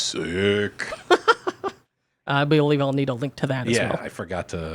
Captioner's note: laughs